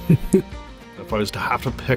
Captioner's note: chuckles